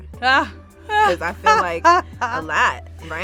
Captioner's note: laughs